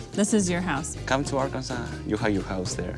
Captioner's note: speaks in foreign language